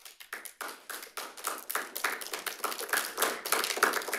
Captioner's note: audience clapping